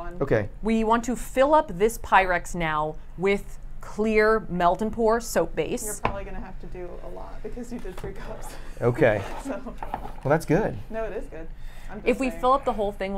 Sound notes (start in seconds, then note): 9.9 chuckles